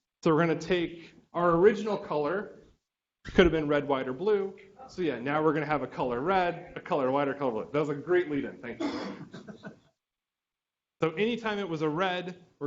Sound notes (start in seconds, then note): 8.8 student laughing